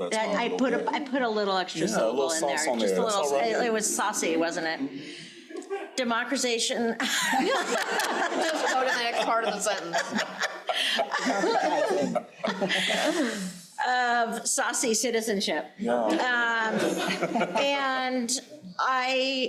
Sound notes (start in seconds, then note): 7.0 crowd laughing; 16.7 crowd laughing